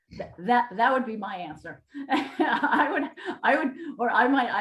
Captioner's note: laughing